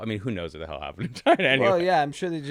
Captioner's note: laughs